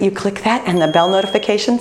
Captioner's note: bell ringing